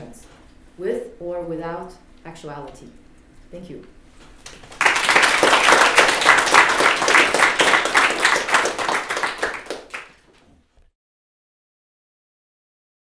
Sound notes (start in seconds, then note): 4.4 applause